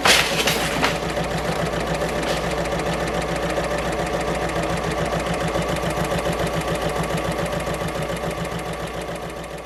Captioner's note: sewing Machine Sounds